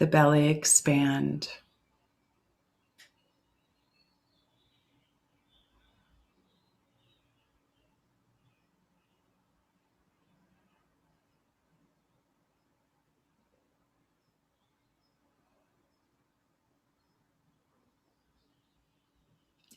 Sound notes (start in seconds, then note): 5.3 silence